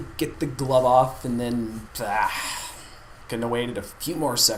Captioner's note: groan